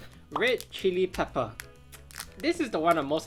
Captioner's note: graphic pops